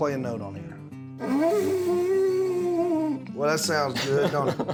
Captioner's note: horn sound; laughing